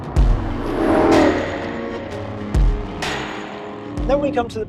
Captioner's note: engine revving